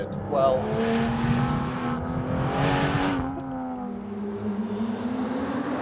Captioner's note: engine roars